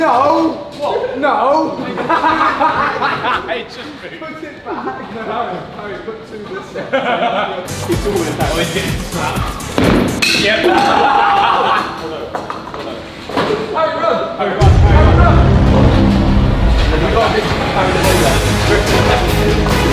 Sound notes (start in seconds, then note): 6.6 lads laughing; 14.6 dramatic music